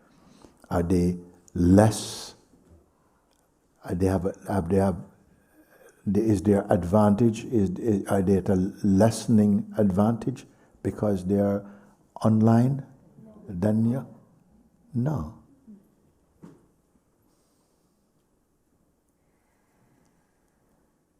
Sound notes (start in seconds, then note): 16.7 silence